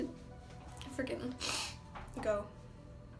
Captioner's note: inhales